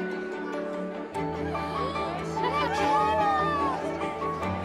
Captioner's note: gasps